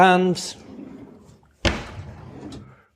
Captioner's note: drawers sliding open and closed